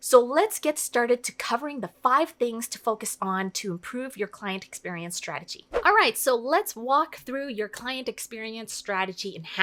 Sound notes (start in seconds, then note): 5.7 air whooshing